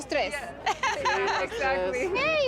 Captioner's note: laughter